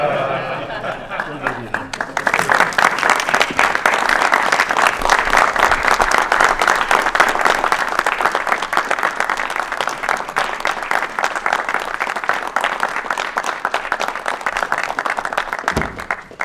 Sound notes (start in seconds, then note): 1.1 applause